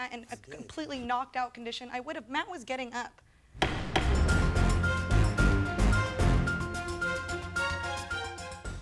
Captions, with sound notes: in a completely knocked out condition, I would've. Matt was getting up. (gavel bangs) (suspenseful music)